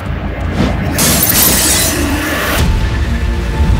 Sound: breaking Car Glasses

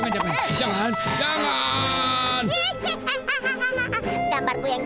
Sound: laughing

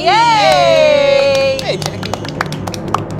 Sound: cast claps

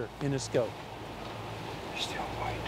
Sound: whispering

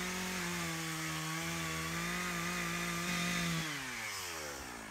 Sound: chainsaw sound

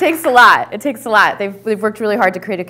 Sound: applause

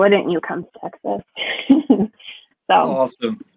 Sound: chuckles

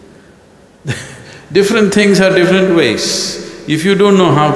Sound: laughs

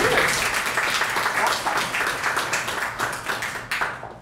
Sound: applause

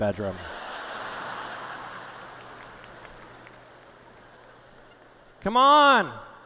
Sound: laughter

